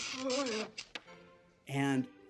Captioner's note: electric shock